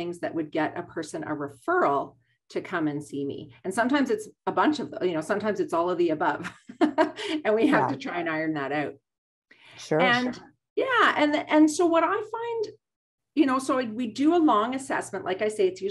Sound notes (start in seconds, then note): 7.6 laughs